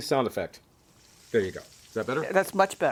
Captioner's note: sizzling Sound